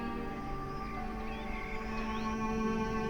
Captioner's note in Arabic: زقزقة الطيور; موسيقى حزينة مشوقة